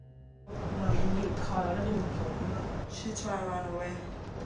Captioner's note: speaks in foreign language